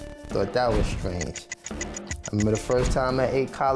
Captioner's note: clock ticks